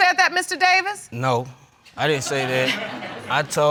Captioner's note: audience laughing